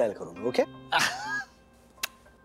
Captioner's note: chuckling